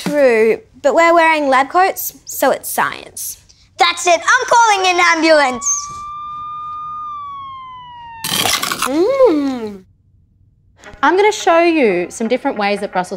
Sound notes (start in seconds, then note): 6.2 sirens wailing; 9.0 water splashing